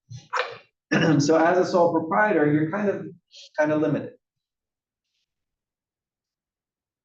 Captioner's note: cough